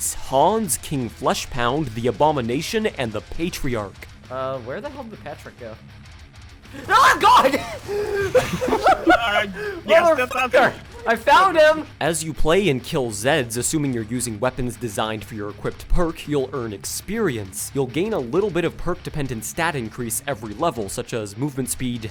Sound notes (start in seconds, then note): 6.7 everybody laughing